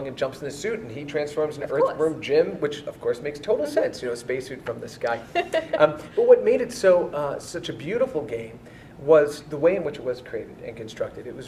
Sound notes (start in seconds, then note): 5.3 laughs